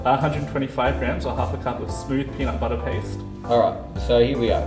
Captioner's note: none